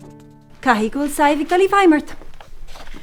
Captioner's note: in irish